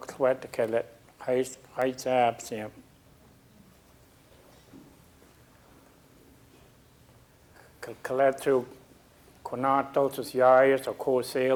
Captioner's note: speaking a local Indigenous language